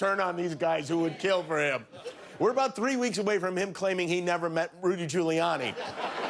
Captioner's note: laughter